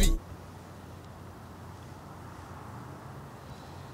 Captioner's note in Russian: музыкальная заставка; приглушённые звуки улицы